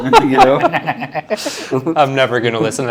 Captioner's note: both laughing